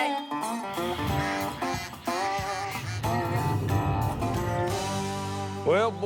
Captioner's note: quacking